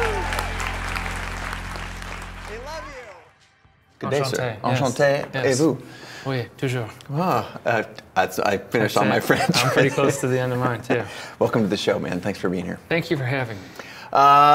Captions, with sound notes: (audience applauding and cheering) They love you. Good day, sir. (speaking foreign language) (speaking foreign language) (speaking foreign language) - Ah, that's, I finished all my French (laughs). - That's it, I'm pretty close to the end of mine, too. - Welcome to the show, man. Thanks for being here. - Thank you for having me.